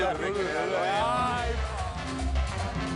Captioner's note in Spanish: Hablan al unísono